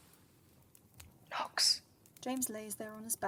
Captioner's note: whispered